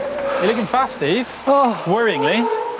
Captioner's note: tires whirring; sigh loudly